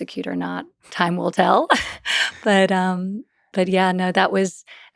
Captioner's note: laughs